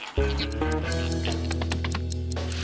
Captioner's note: watch ticking